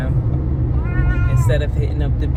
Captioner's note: meow